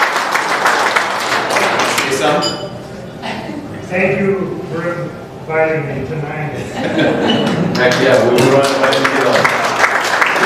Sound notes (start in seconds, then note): 6.6 laughter